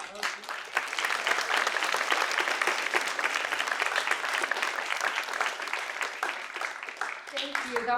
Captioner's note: applause